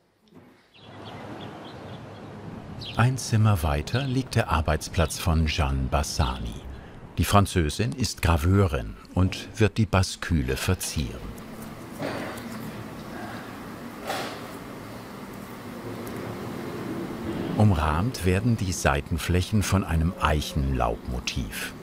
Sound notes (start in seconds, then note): 0.3 birds chirping